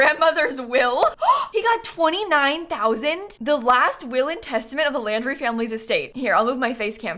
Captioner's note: gasps